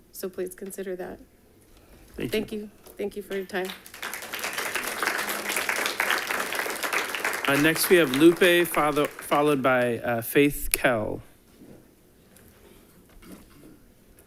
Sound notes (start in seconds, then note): 3.3 audience applauding